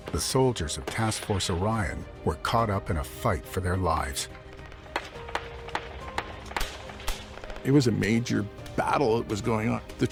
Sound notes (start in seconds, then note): 6.0 weapons blast